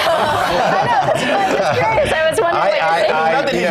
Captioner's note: laugh